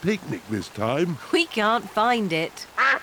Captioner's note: quacking